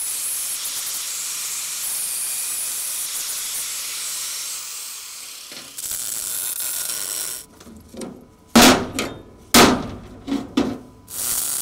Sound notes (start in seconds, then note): 6.3 welding torch buzzing; 9.6 slams